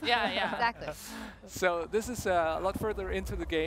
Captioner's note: laughter